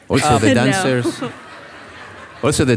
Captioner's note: audience laughing